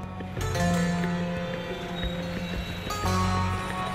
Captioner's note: traffic noises